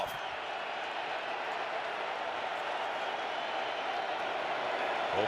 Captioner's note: crowd cheering